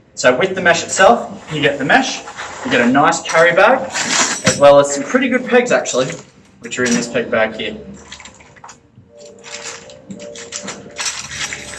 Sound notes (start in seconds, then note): 4.1 pegs clinking; 9.2 bag clicking open; 11.5 pegs clinking